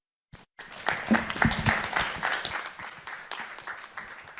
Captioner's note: audience applauding